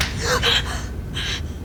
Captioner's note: gasps